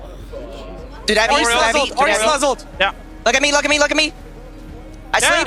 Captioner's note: teammates communicating